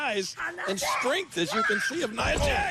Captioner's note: Kairi screams